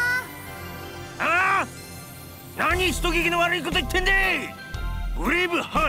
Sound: shout

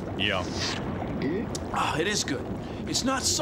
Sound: gulps

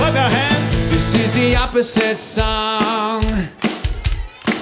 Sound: clapping

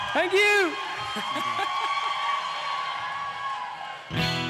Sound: laughing

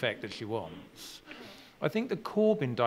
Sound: laughing

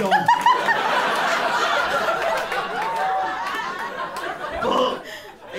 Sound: laughter continues

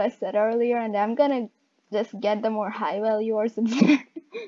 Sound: laughs

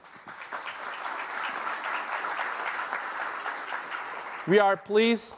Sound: applause

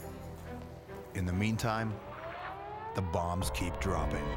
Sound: air raid siren

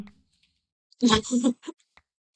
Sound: laughs

